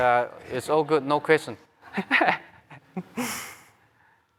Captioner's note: laughter